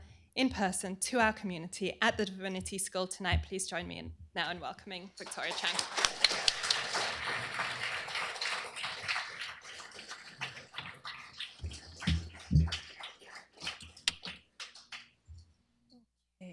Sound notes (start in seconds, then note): 5.2 applause